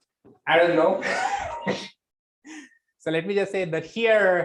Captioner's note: laughs